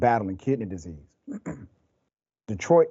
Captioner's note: cough